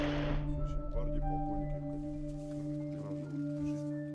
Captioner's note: speaking Russian